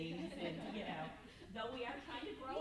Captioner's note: group laughs